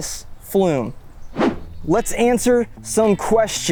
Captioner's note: screen whooshing